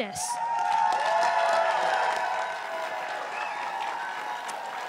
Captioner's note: crowd cheering and applauding